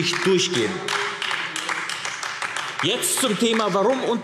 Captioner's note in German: Beifall AfD